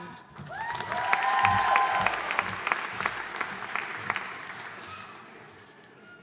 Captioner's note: audience cheering and applauding